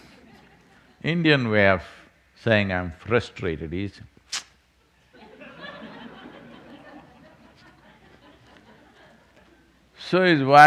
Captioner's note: few laugh